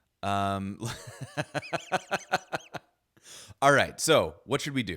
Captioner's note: laughs